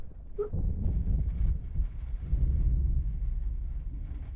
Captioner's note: thunder rolling